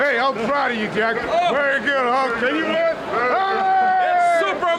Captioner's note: cheering